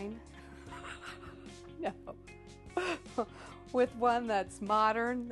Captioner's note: laughing